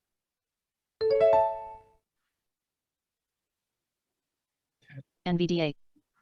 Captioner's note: software notification ding